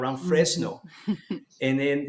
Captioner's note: laughs